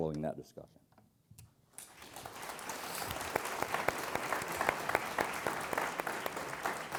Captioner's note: applause